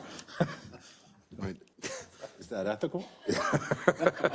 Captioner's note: laugh